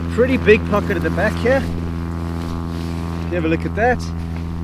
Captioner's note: plane engine whirring